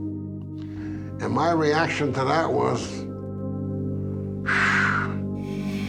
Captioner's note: exhales; pensive music